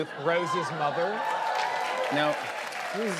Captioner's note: cheers and applause